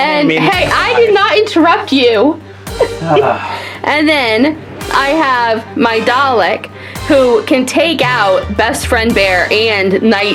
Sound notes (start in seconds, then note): 2.8 sighs; 2.8 laughs